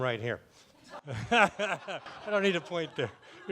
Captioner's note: laughing